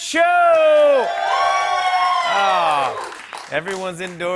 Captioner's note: cheers and applause